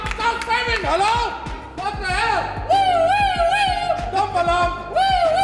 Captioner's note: whooping